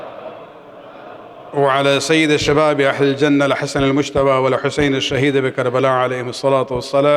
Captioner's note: arabic